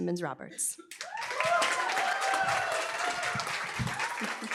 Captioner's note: applause, cheering